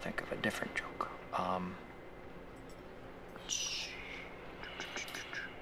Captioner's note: making mouth noises